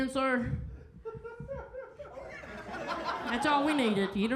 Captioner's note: crowd laughs